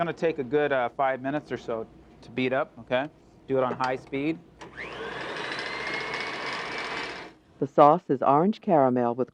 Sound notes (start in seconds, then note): 4.6 mixer whirring; 8.2 voiceover